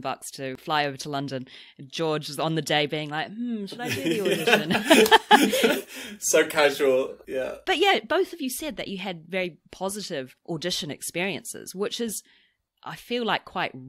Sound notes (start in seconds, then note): 3.7 laughs